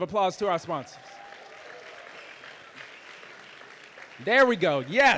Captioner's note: audience applauding